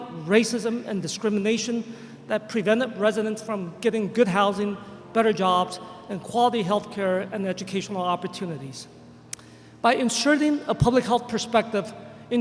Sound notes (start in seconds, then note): none